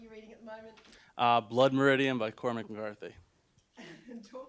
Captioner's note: laughter